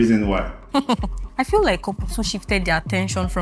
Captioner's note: laughs